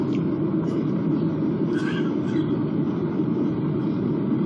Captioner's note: cough